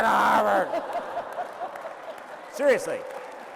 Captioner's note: laughter